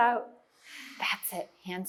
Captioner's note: exhales